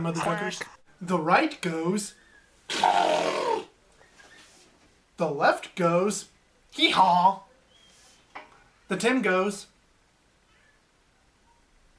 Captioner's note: makes elephant noise